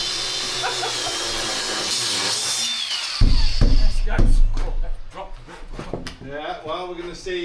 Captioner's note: drill whirring; laughing